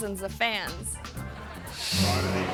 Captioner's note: audience laughing; air whooshes